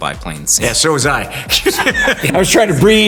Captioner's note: all laughing